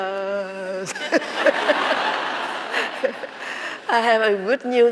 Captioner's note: laughing